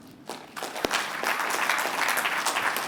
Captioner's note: applause